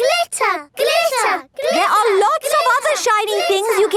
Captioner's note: chanting